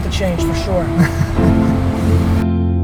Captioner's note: man laughs